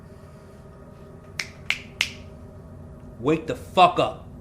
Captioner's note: fingers snapping